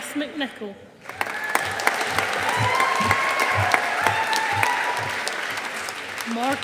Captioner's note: audience applauding